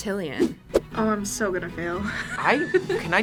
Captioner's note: laughs